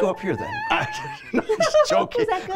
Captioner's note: humming high notes